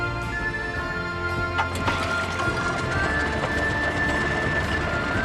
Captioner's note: throttling engine